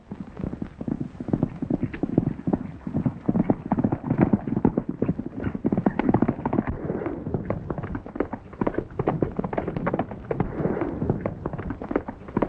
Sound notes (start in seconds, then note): 3.0 horses galloping